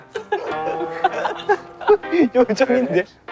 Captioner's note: unable to hold the laughter